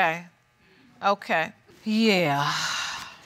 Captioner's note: sighs